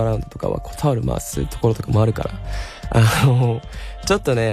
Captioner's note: laughs